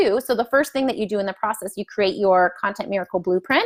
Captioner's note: none